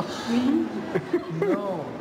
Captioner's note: laughter